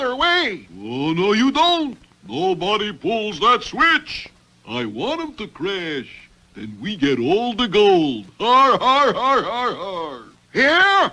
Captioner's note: laughs